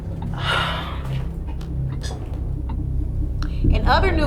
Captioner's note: girlfriend sighs